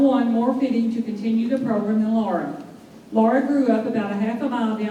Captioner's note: none